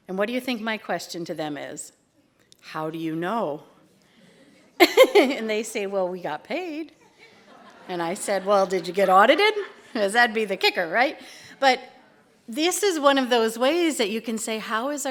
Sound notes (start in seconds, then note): 4.8 laughter